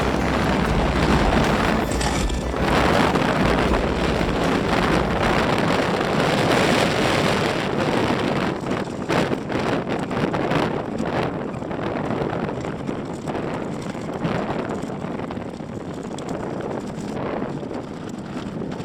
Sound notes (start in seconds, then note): 3.1 horses jogging noise, wind noise